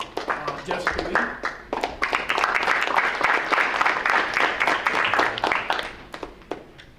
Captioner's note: audience applauding